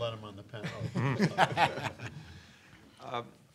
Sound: laughs

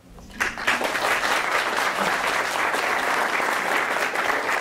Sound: audience clapping

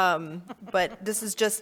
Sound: board members chuckling

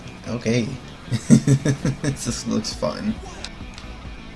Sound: laughs

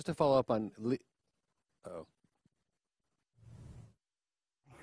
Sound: sound cuts out

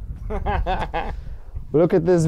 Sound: man laughing

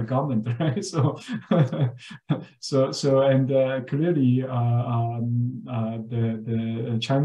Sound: laughs

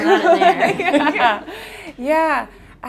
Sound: laughing

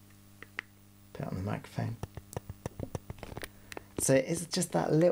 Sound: click sounds

